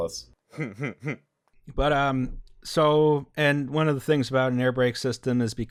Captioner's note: laughter